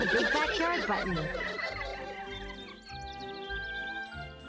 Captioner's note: kids laughing